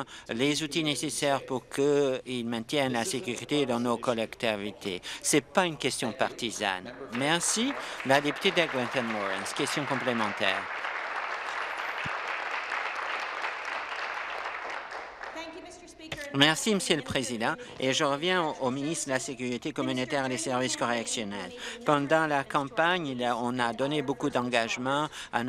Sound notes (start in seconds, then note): 12.5 applause